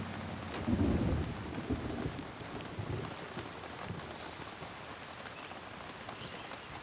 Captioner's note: rain pattering; thunder rumbling